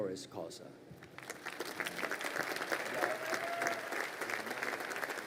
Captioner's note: crowd applauding